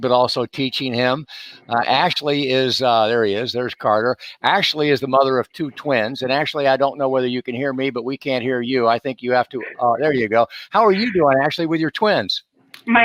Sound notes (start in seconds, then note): 9.6 laughs